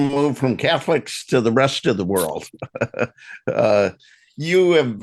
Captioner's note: chuckles